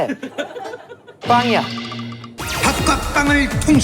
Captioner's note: burst out laughing